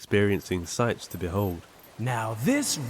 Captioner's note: water loudly trickling; dog tags jingling